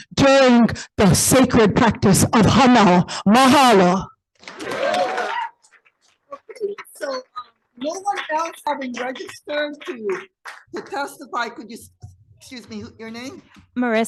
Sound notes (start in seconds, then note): 4.4 audience applauding